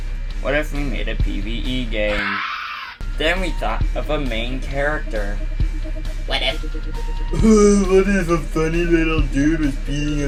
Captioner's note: scream